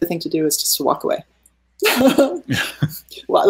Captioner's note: laughing